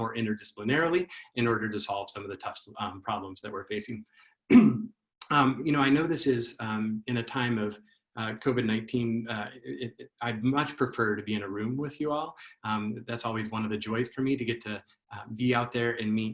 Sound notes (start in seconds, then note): 4.5 cough